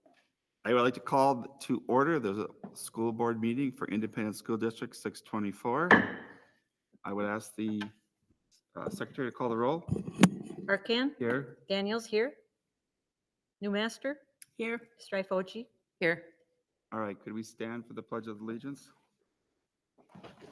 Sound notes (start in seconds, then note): 6.0 gavel raps